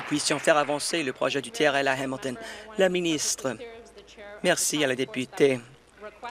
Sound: applause

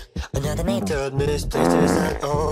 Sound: fart

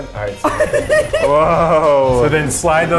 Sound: laughing

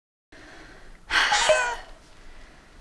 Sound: cell-phone: cat's meoow jingle

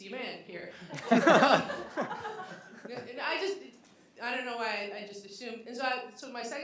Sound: laughter

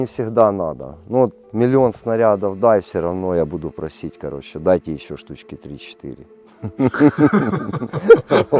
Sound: laughter

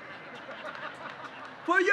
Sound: laughter

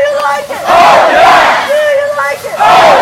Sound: crowd

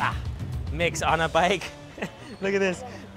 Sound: laughs

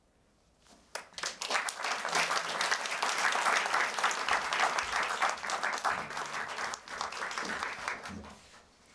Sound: applause

